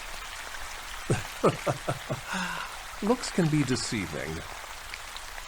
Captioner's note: laughing